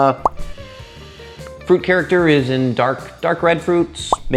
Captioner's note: sniffing